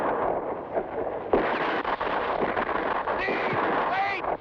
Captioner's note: gunshots blast